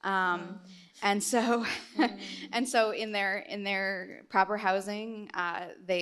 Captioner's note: laughs